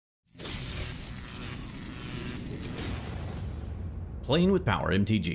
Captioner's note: electricity crackling